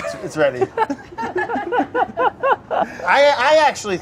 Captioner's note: laughing